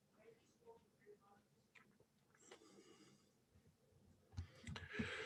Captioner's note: mouse clicking